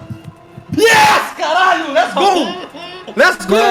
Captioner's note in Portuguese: gritando